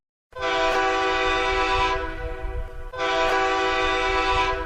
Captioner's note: horn blasts